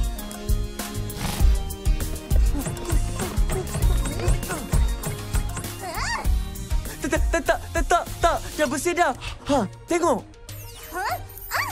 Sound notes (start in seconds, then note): 2.2 panting; 5.6 angry huff